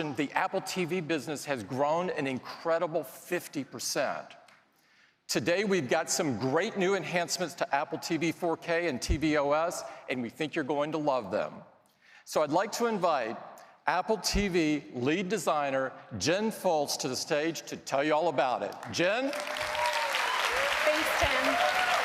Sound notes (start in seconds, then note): 18.7 applause